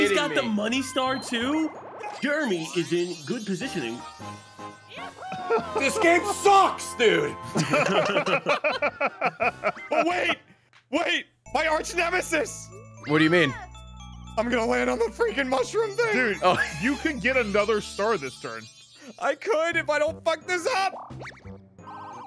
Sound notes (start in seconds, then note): 5.1 laughs